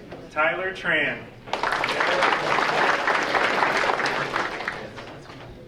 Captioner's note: audience applauding